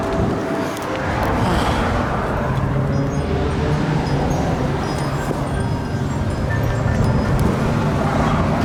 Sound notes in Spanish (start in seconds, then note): 1.4 Suspiro